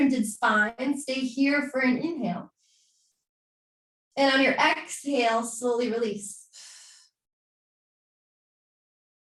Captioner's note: exhaling